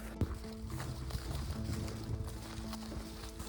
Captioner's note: footsteps